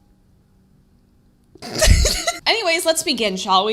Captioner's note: laughs